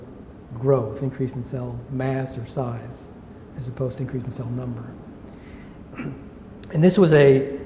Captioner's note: clears throat